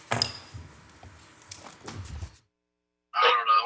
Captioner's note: gravel tapping